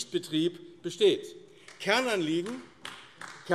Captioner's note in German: Beifall AfD